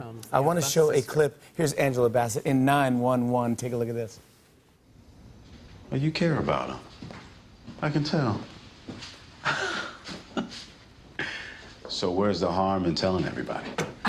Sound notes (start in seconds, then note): 9.4 laughs